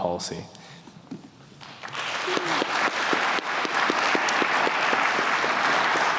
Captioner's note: applause